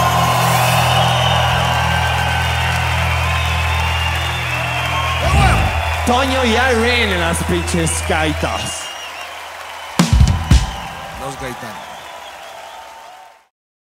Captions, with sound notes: [termina música, gritos y aplausos] Toño en las pinches gaitas. [gritos y aplausos]